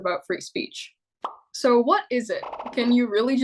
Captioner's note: digital pop